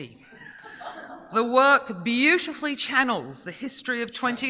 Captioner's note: audience giggling